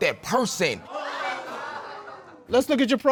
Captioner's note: audience exclaims